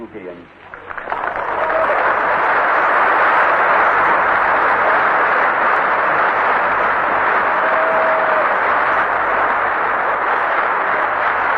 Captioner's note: applause